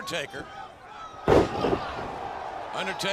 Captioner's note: feet slam